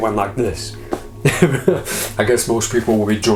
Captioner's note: laughs